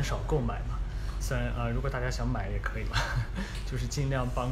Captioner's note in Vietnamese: cười